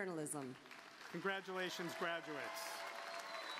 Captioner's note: applause